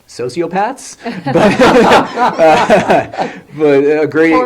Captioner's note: laughs